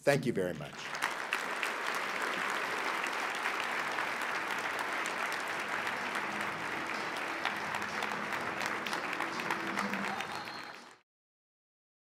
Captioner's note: applause